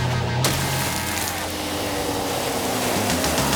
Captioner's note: water splashing; car engines revving